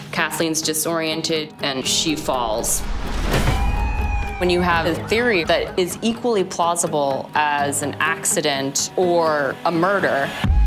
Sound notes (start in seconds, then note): 3.2 police sirens